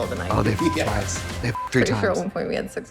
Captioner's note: beep